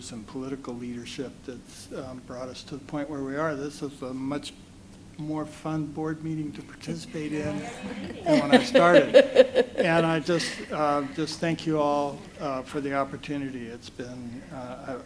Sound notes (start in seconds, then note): 7.0 laughs